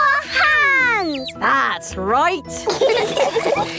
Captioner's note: all laughing